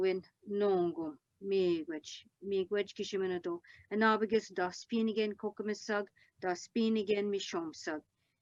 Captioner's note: speaking Algonquin